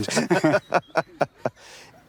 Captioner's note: they laugh